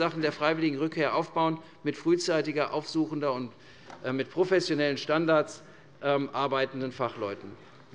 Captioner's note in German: none